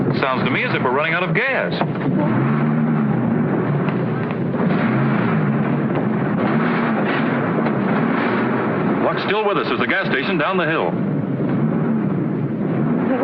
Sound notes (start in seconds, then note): 2.5 engine gasping